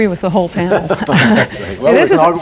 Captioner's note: laughter